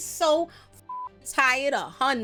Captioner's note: beep